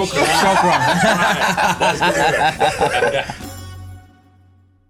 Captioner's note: all laughing